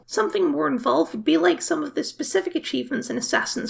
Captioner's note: none